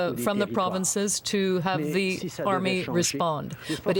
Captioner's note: speaking French